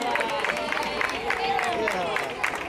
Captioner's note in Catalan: Aplaudiments